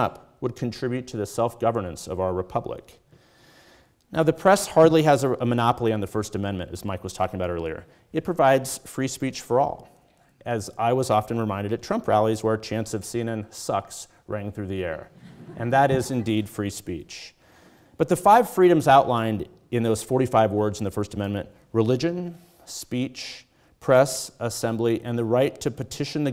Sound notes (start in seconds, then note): 15.1 audience chuckles